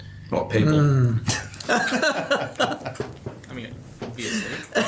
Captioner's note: men laugh